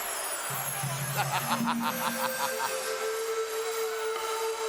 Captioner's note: Ted cackles